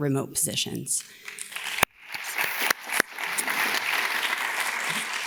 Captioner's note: audience applauds